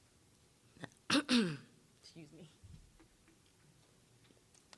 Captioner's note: clearing throat